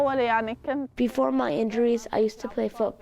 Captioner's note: through translator